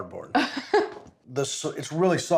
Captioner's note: laughs